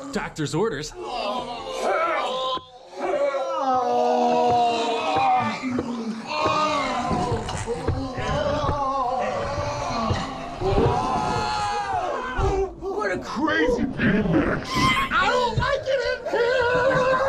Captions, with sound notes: Doctor's orders! [horrid wretching] What a crazy Bean mix! I don't like it in here!